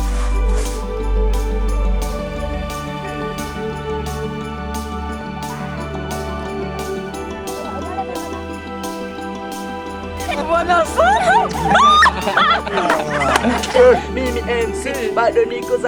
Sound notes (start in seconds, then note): 0.2 uplifting music; 10.8 speaking in foreign language; 13.5 laughing; 15.6 speaking in foreign language